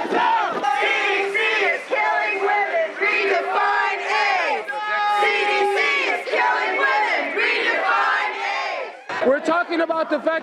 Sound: chanting

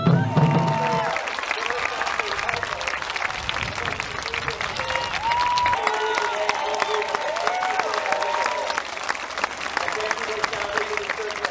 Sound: applause and cheering

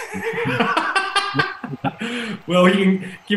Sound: laughs

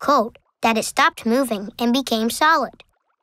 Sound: none

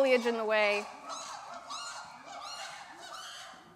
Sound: chimp calling

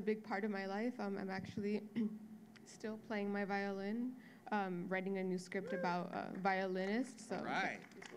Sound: applause

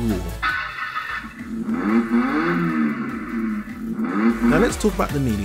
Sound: engine cranking, revving

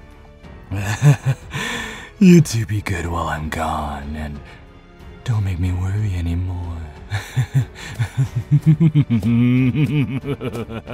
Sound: chuckle; light laughing

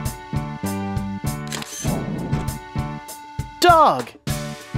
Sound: SFX: Camera Shutter

